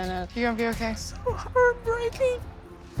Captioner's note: crying